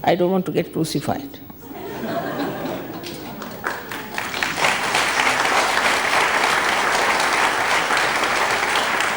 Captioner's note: all laugh and clap